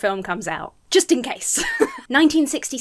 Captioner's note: chuckles